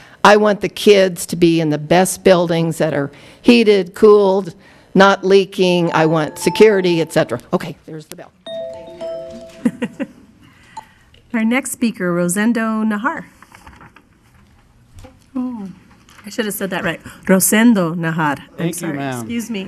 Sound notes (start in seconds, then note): 6.0 musical tone; 11.5 woman's Voice